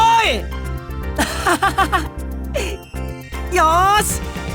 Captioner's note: laugh